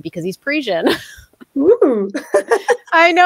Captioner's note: chuckling